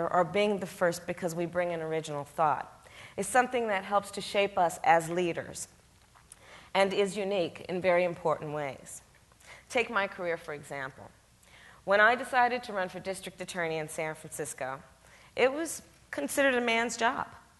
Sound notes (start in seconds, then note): none